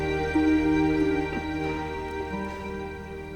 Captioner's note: chuckles